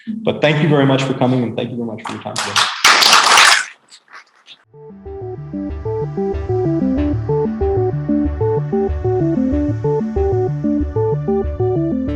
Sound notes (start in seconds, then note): 2.1 applause